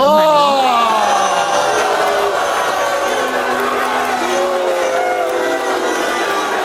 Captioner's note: audience jeering and applauding